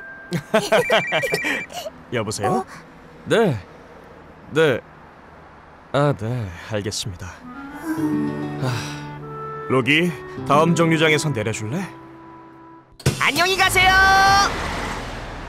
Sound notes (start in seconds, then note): 0.3 laughter; 0.3 phone rings; 7.7 sighs